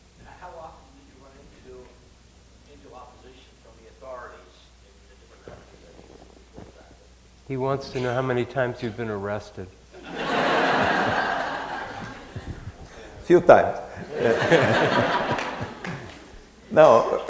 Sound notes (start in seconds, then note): 9.9 laughter